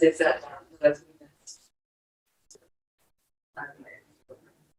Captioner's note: speaks distorted